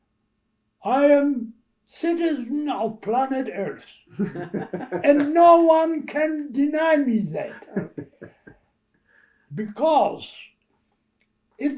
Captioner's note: laughter